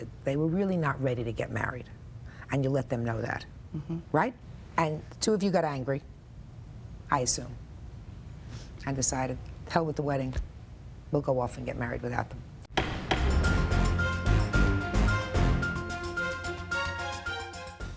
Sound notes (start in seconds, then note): 12.7 gavel banging; 12.7 dramatic music